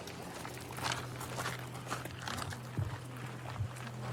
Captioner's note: footsteps crunching